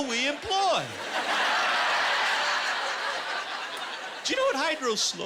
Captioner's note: laughter